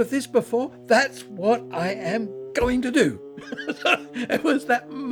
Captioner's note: laughs